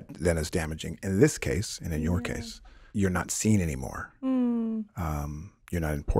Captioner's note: none